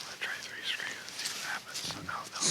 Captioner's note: whispers